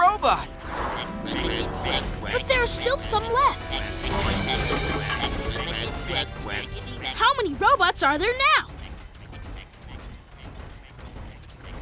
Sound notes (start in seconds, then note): none